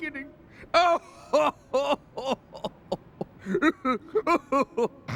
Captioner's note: sobbing